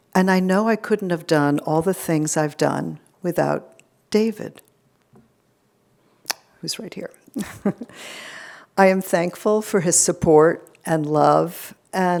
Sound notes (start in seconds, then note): 7.3 giggles